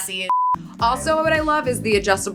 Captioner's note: beep